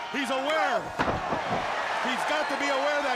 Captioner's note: crowd cheering